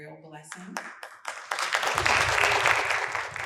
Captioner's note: applause fades out